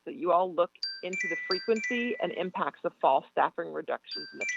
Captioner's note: chime